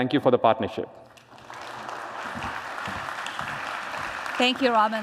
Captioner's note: applause